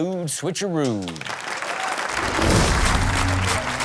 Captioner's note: audience applaud and cheer; upbeat music